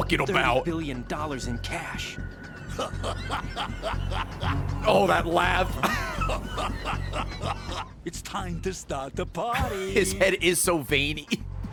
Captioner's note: laughs; laughs